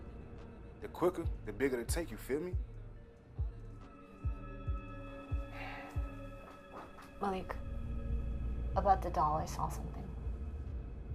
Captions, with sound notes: The quicker, the bigger the take. You feel me? (Malik sighs) - Malik, about the doll, I saw something.